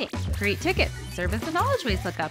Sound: robotic arm blooping; robotic arm whirring

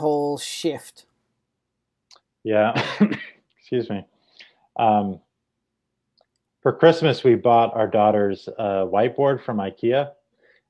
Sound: coughs

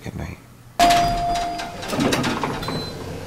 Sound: diiiing

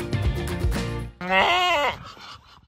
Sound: bleating

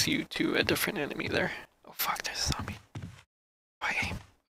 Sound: whispering

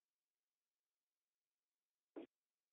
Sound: silence

